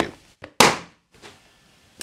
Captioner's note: pop!